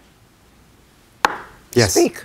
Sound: gavel bangs

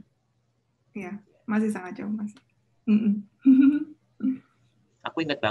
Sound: chuckles

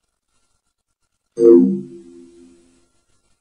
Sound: computerized musical note

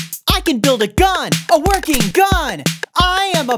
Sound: cocks gun

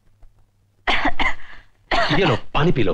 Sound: cough

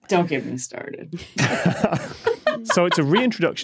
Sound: laugh

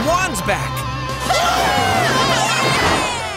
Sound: all cheering

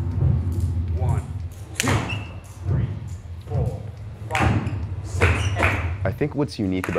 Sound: snaps fingers

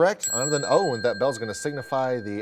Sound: ding

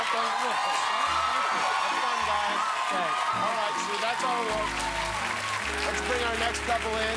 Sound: cheers and applause

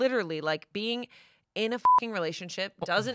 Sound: beep

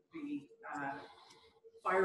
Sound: pause

